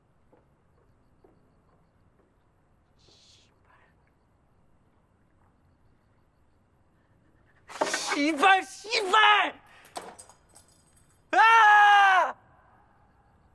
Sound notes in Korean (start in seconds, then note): 7.7 집어던지는 소리